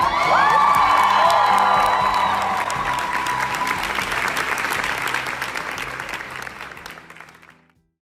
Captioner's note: applause, cheers